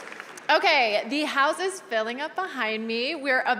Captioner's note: cheers and applause